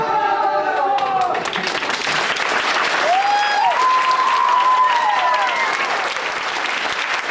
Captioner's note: applause